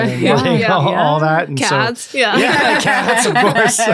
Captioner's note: all laughing